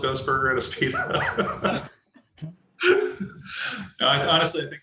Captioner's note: laughs